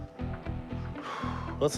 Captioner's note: sighs